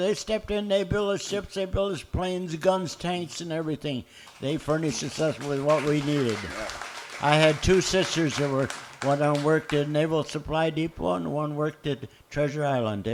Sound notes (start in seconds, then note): 6.2 applause